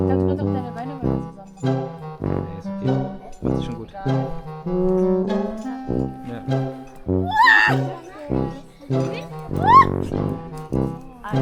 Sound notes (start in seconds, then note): 0.1 speaking German; 7.2 scream; 9.6 scream